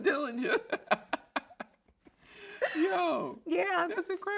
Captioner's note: both laugh